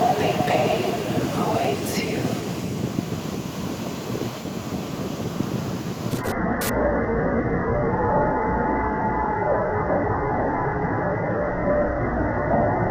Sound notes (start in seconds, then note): 5.8 bursts of static